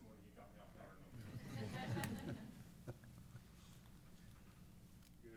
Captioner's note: laughing